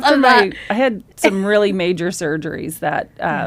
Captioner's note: laughs